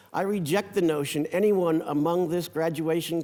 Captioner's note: none